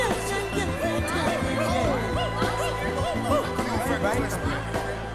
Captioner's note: crowd chatters